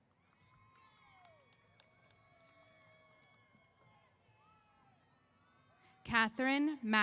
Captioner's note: cheers